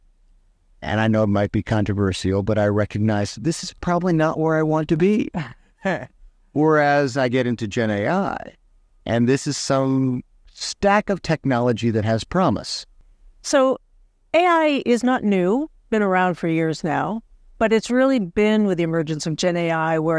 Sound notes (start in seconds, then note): 5.3 chuckles